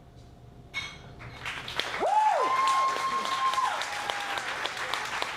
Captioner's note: audience cheers and applauds